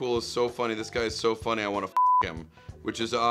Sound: beep

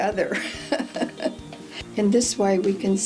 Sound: laughs

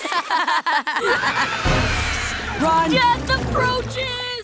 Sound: both laughing; roaring

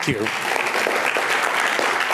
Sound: applause

